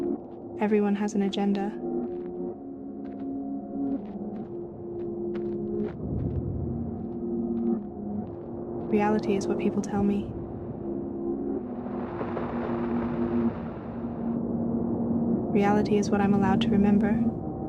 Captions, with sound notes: Everyone has an agenda. (muffled waves) Reality is what people tell me. (lapping waves) Reality is what I'm allowed to remember.